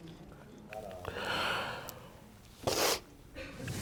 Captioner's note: sniffles